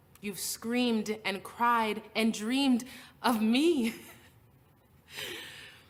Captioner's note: laughs